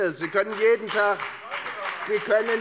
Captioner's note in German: Beifall bei der FDP